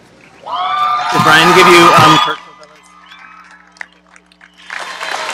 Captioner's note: cheers and applause